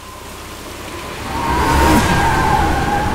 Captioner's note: Car halts